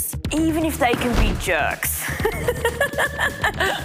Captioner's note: laughs